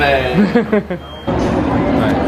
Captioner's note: laughs